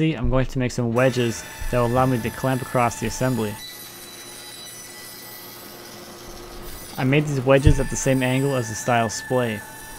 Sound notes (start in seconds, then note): 4.2 saw buzzing